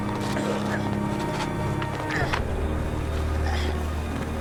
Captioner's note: grunting